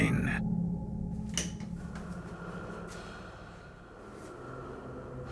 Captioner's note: heavy breathing